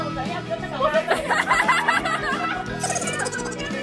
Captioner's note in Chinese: 眾人笑cry